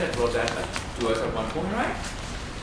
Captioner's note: tape disturbance